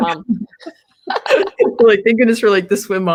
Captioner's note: laughter